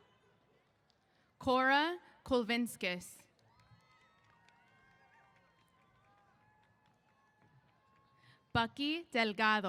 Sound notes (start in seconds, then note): 0.0 cheers; 3.3 applause & Cheers